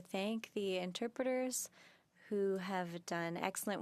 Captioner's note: speaking French